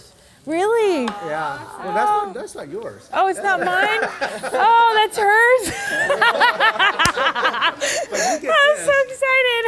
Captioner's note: laughing hysterically